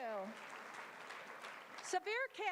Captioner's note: applause